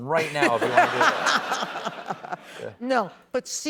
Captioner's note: laughs